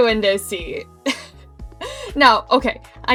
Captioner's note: giggles